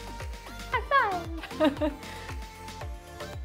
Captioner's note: giggles